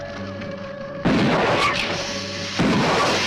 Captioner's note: gun firing; lizard hissing